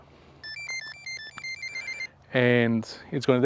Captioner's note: beeping